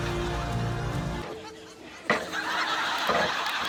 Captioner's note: music stops, ladder clangs; laughter